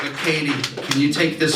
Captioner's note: audience Reaction